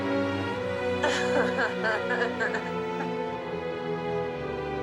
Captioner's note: althea laughing